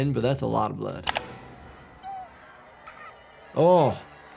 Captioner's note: dramatic music; Maureen yelping